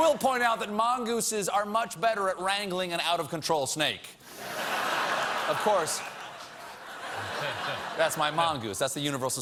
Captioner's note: laughter